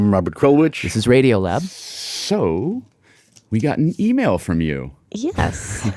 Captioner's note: laughs